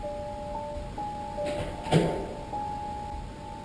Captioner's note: doors banging